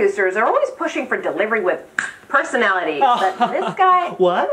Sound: laughs sarcastically

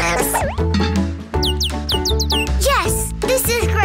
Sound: chirping

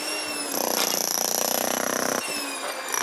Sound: loud rattling, whirring

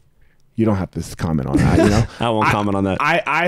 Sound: chuckles

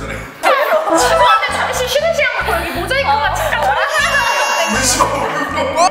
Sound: she can't stop laughing

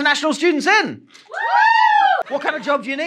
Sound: audience woos

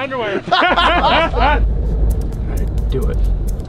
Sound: laughing

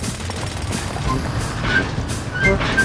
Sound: drilling

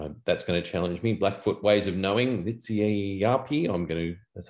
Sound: speaking siksika

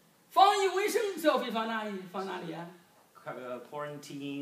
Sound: speaking foreign language

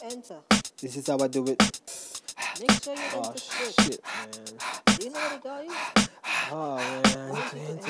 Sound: ha ha ha ha ha

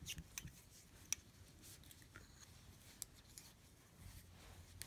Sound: needles lightly clicking

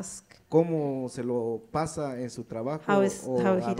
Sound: speaks in foreign language

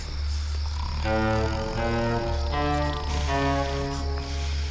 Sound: snoring

